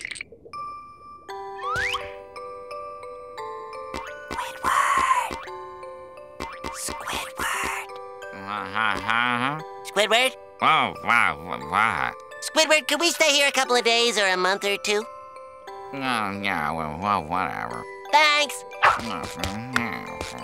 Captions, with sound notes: [lullaby music playing] [whispering] Squidward. Squidward. H-H-Huh? - Squidward. - Whoa, whoa. What? Squidward, could we stay here a couple of days or a month or two? Yeah, well, well, whatever. Thanks.